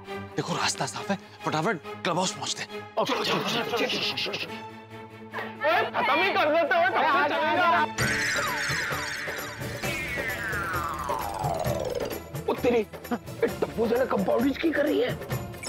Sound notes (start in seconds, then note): 5.5 chaotic chatter; 7.8 comical music playing